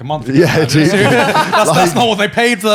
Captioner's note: laughing